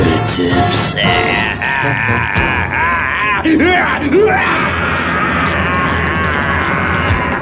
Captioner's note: evil ass laugh